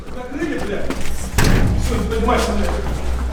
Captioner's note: loud thud